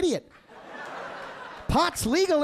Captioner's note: audience laughing